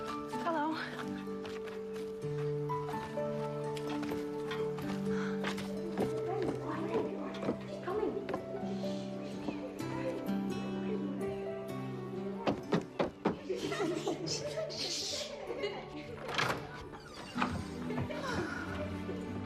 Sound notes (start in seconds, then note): 5.8 children chatting; 12.4 stomps feet; 13.3 giggling